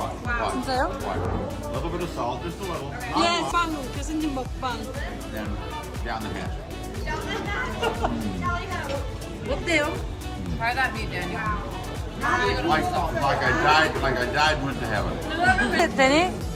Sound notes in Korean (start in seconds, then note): 12.4 ㅋㅋ